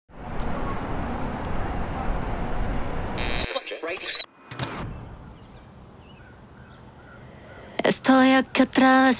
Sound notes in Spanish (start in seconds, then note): 0.6 ambiente de la ciudad; 3.1 sintonizando radio